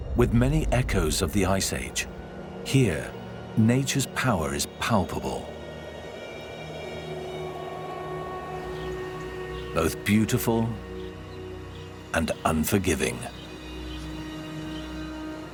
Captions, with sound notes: with many echoes of the Ice Age. Here nature's power is palpable. [wind blowing] [birds chirping] Both beautiful and unforgiving.